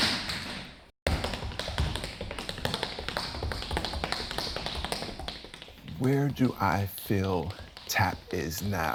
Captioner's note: sounds of tap dancing